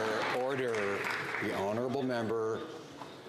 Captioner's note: some Applause